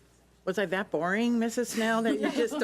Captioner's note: laughs